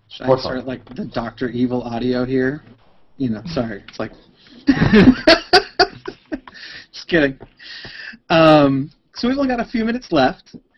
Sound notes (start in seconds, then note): 4.5 laughs